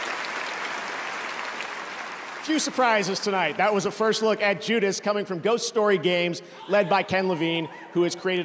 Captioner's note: cheers and applause